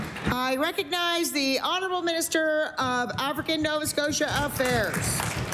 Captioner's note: applause